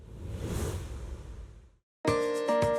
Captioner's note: air whooshing; bright music